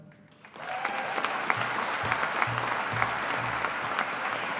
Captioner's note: audience applauding